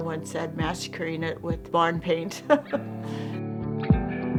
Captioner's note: laughs; chiming music